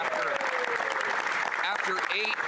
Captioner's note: applause